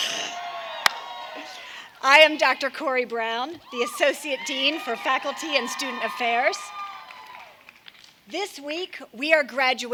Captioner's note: cheers and applause